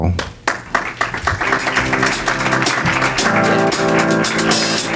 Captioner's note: audience clapping